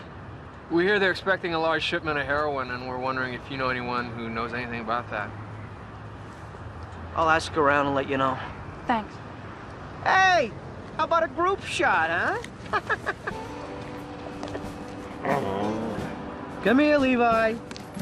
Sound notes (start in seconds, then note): 15.2 soft growl